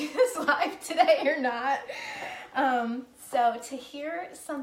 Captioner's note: laughing